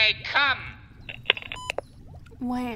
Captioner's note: intercom beeps and turns off